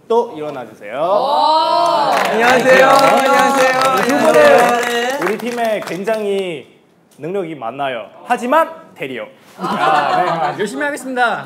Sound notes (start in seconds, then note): 5.0 applause